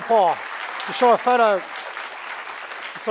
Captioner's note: applause